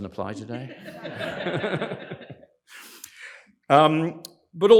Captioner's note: laughter